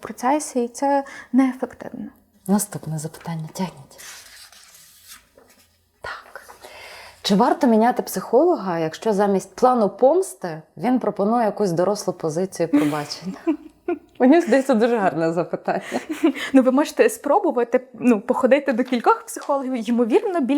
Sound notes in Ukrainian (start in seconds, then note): 12.7 сміх